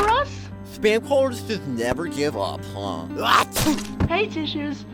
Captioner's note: sneezes